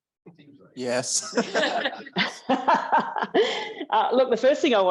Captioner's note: laughter